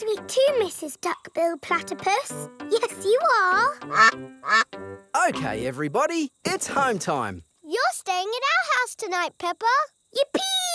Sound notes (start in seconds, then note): 3.8 quacking